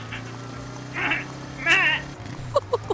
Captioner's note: bleating; laughing